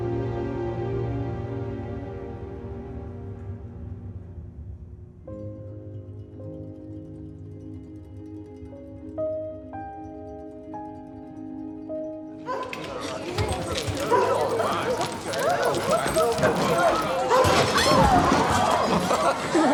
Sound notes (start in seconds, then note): 0.0 tender music; 12.4 dogs barking; 16.1 diners clamoring